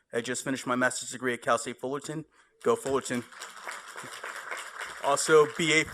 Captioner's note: applause